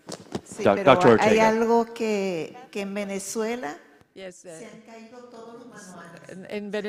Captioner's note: speaking in foreign language